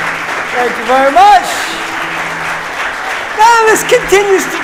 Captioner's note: audience applauding